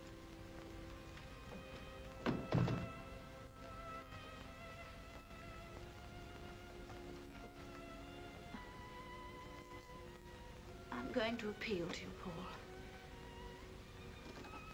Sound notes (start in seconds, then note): 0.0 soft ominous music; 2.2 door closes; 4.3 soft ominous music